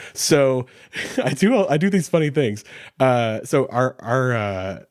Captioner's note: chuckles